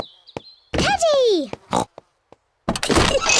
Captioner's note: oink